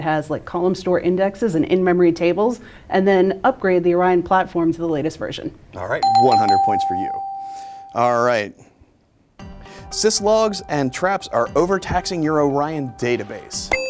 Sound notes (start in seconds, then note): 6.0 dings; 13.7 ding